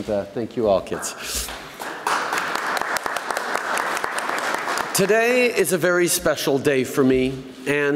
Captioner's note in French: Applaudissements